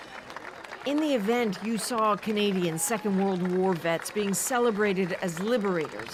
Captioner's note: applause